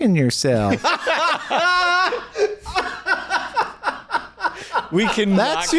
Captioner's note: laughing